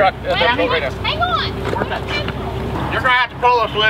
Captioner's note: speaks faintly